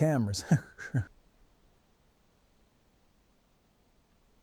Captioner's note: Man in White laughing